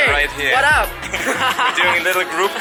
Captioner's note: laughs